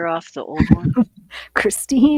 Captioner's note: chuckling